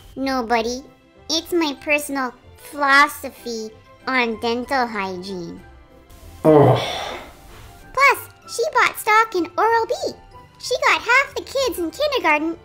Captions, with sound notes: Nobody. It's my personal FLOSS-ophy on Dental Hygiene. *groan* Plus, she bought stock in oral-B. She got half the kids in kindergarten...